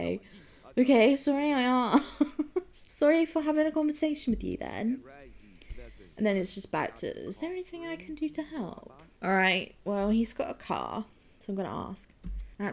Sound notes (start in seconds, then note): 6.7 sweetly